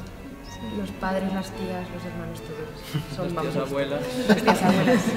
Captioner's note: laughs